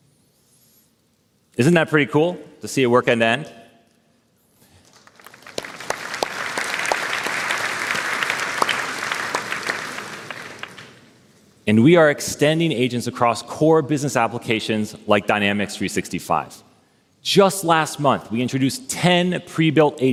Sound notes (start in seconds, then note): 7.8 applause